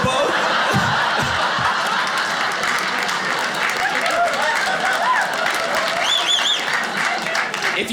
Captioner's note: audience laughing